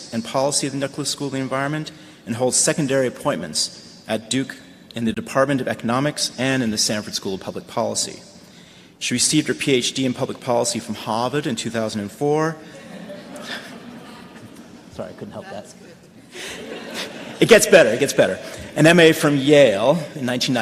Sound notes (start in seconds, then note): 13.7 laughter